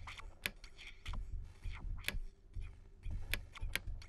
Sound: snapping over and over

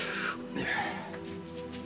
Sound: grunts

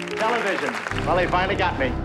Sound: audience claps

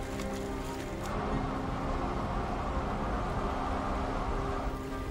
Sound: brooding music continues; wind gusting

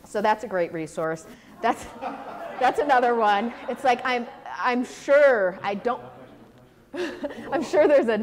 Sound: audience laughter

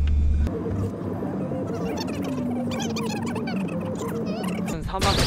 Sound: chit-chatting

